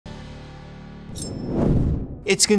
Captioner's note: screen whooshing